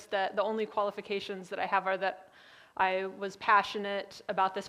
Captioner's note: none